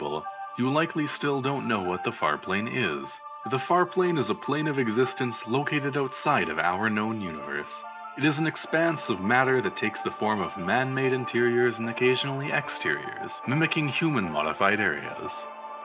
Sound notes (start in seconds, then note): none